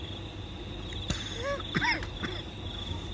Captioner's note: coughs